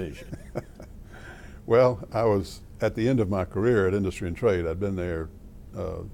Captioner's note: laughter